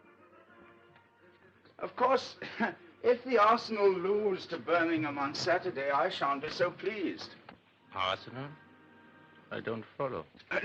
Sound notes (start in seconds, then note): 2.6 laughs